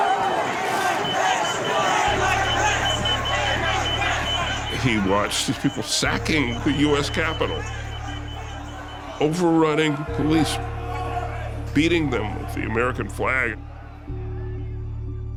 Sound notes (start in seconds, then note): 1.3 chanting